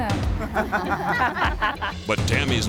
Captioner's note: all laughing